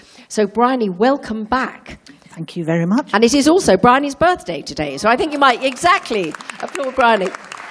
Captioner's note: sound of applause